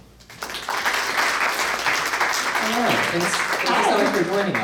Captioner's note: audience applauds